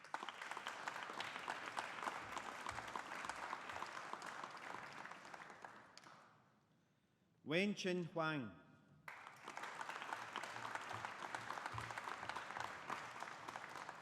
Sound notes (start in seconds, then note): 0.0 audience applauding; 9.0 audience applauding